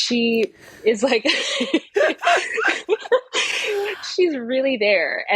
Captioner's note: both laughing